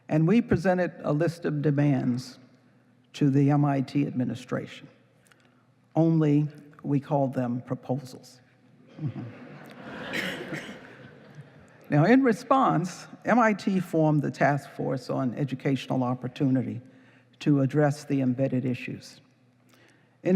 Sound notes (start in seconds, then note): 8.9 laughing